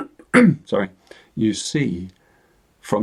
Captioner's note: clears his throat